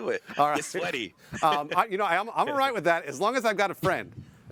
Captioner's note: laughter